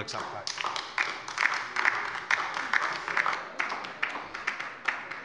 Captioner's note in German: Beifall bei der LINKEN